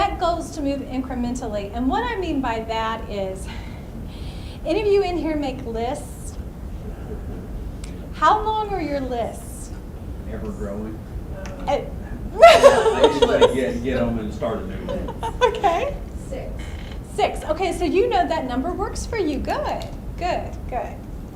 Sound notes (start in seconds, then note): 10.7 voiceover; 12.2 laughs; 12.9 voiceover; 15.8 laughs; 16.7 voiceover